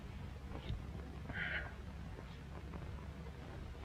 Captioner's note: sighs